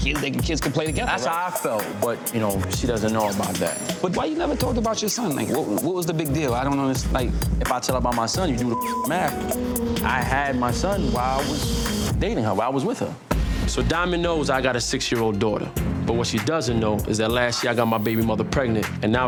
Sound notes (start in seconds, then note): 8.6 beep